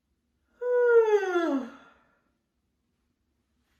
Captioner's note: yawns loudly